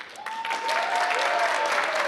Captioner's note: applause